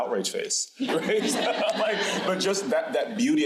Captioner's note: crowd laughing